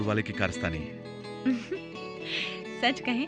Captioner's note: chuckling